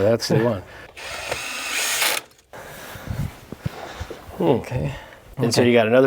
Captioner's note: sawing